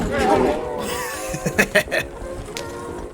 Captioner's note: laughs